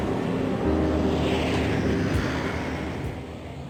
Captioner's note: cars rumbling